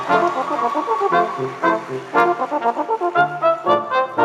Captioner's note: applause